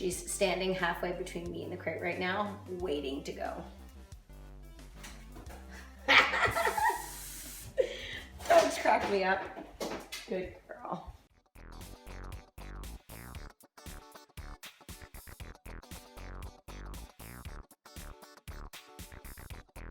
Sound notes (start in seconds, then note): 6.0 laughing; 11.7 upbeat music